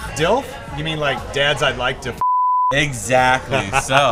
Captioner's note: beep